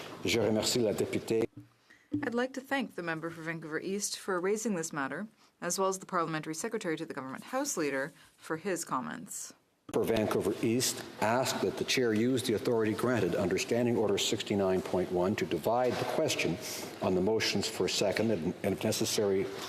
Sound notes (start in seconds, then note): 3.5 speaking French